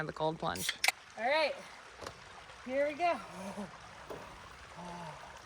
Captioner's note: gasping